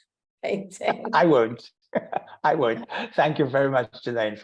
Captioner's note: laughing